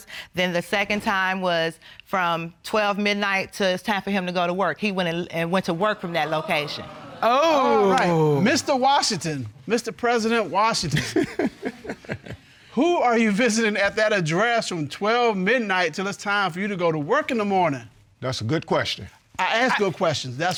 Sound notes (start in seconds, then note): 10.9 chuckles